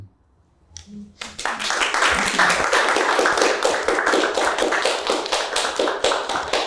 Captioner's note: applause